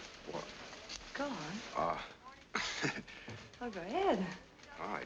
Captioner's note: chuckles